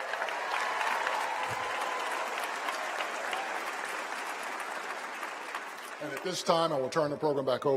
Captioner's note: applause